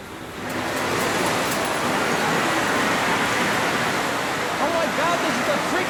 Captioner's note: extremely loud clicking and whirring